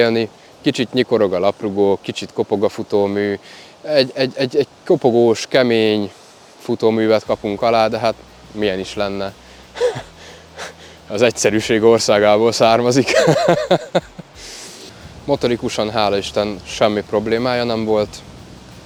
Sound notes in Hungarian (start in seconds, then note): 13.0 nevetés